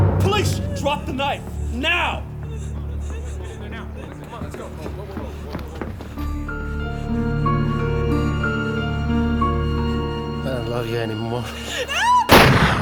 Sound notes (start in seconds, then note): 2.4 Patricia whimpering; 3.9 all murmuring; 6.4 ominous orchestral music; 11.8 Patricia screaming